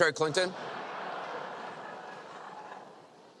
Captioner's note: laughter